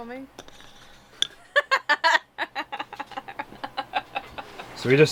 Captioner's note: laughs